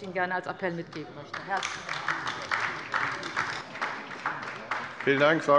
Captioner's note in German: Beifall bei der LINKEN